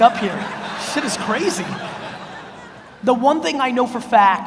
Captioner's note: audience laughs